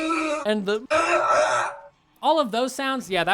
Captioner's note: death sounds; screaming